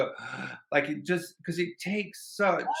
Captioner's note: gasps